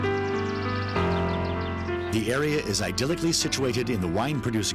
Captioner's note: birds chirping